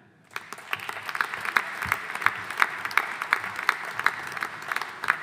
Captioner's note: audience applauding